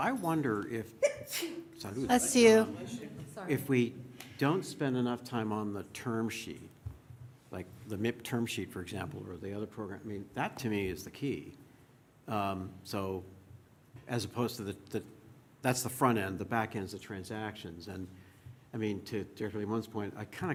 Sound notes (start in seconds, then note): 1.0 sneeze